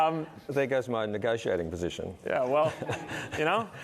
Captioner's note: laughs